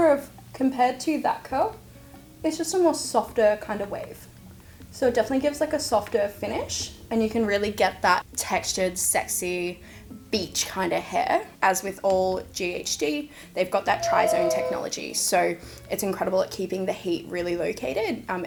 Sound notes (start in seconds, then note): 13.9 beep